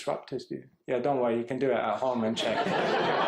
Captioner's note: laughter